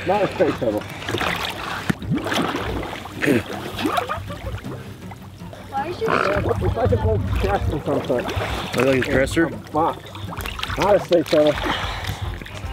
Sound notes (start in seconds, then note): 2.3 bubbles sloshing; 2.3 spits out water